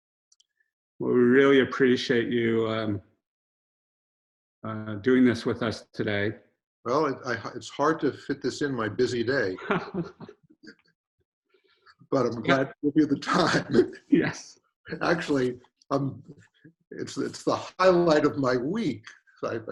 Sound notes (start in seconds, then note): 10.0 laughing; 14.7 chuckles; 17.0 laughs